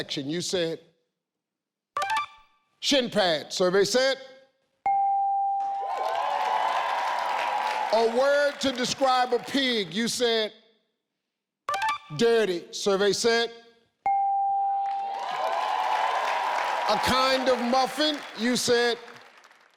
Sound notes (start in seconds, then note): 4.7 bell chimes; 5.7 audience cheering; 14.1 bell chimes; 14.9 audience cheering